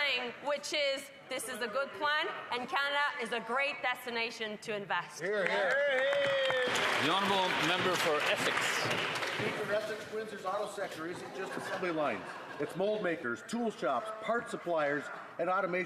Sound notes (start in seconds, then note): 10.2 some Applause